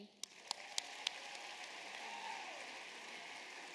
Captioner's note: applause